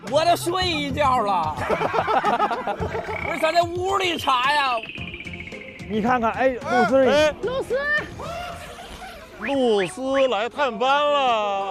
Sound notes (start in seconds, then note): 1.6 hahahaha